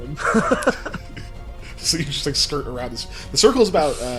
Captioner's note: laughs